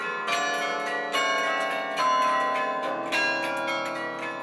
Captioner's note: bells